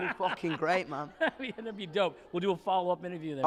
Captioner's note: laughs